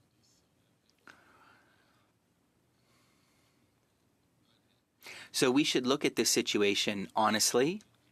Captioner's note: speaking French